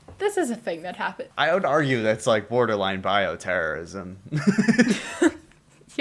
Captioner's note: laughter